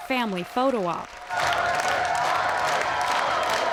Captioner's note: crowd chanting Harper